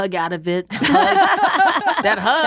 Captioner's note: laughs